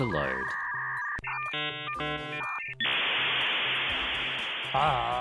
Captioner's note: dial-up modem beeps continue, static